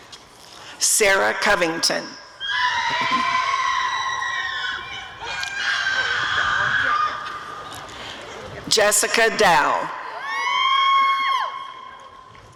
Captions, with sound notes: Sarah Covington [audience cheering] Jessica Dao [audience cheering]